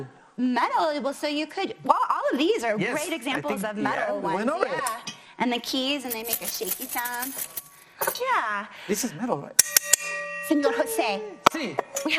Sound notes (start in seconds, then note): none